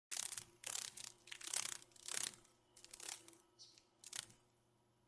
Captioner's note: sounds of a dragon fly